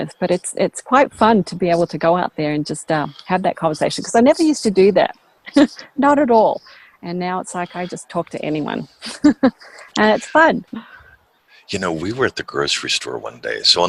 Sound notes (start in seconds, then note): 7.4 laughs; 7.5 chuckles